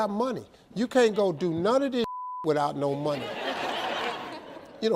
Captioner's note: beep; audience laughs